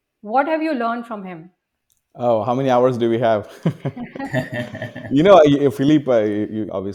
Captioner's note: all of them laughs